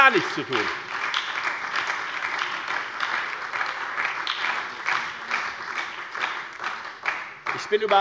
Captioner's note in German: Lebhafter Beifall bei der FDP, der SPD und der LINKEN